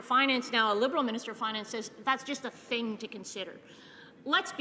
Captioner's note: none